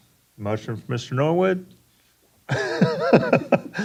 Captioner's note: laughing